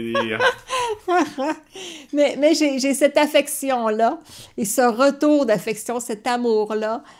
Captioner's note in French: rire